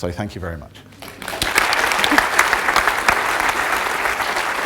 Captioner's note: clapping